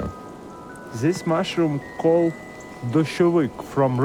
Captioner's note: speaks foreign language